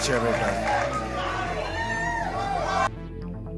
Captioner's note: crowd cheering